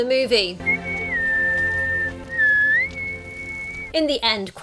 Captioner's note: whistles long note